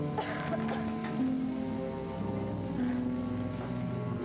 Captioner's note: Joan coughing